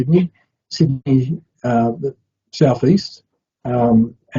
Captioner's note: audio distorting